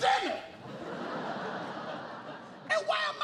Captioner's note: laughter